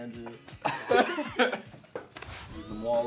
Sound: laughing

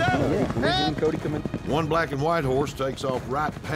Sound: hoofbeats

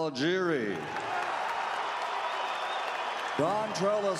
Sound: louder cheers

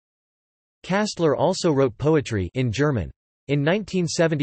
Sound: in German

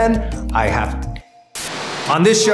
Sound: static

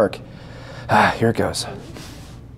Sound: deep Breath

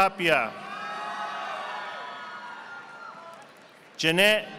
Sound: audience applauding

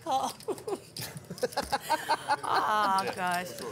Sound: laughing

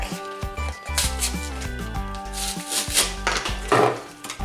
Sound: package ripping

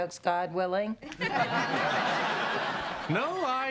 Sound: laughter

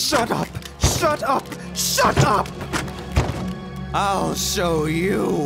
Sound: floor cracking

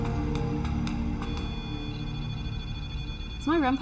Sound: beeping

